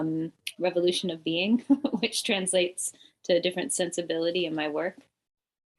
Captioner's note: chuckles